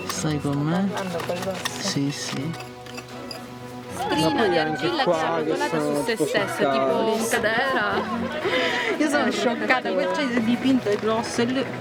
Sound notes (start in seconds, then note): 3.9 exulting